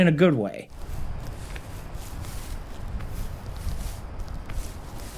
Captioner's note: character rustling